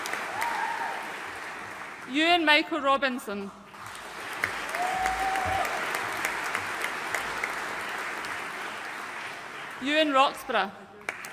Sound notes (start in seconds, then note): 3.8 audience cheering and applauding